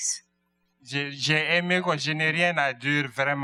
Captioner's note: speaking french